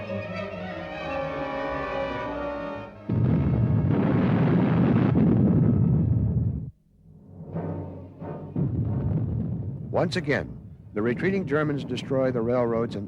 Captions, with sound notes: (explosion) Once again, the retreating Germans destroy the railroads